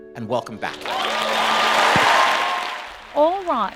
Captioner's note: cheering and applause